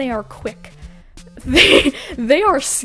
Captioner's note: laughs